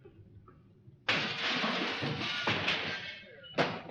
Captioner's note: sound of glass smashing; clattering sound